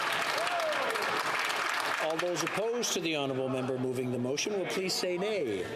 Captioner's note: some Applause